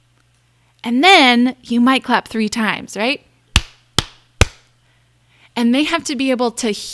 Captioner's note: claps